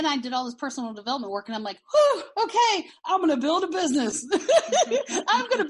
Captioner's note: laughing